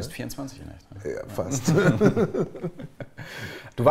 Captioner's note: laughs